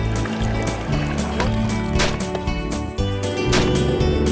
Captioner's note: gunshots